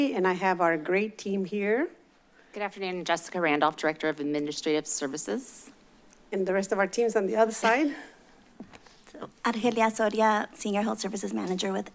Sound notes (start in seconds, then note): 7.9 chuckles